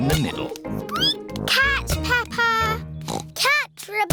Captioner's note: squeaks; oinks